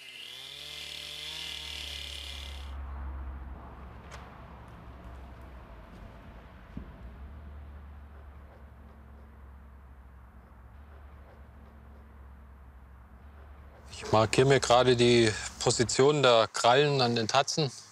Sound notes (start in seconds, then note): 3.4 silence